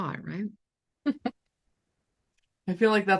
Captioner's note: chuckling